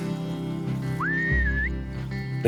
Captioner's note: whistling